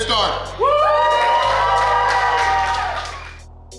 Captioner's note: cheering & Clapping